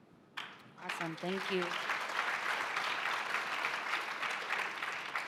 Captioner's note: applause